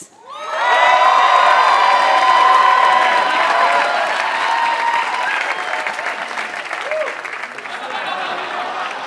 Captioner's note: applause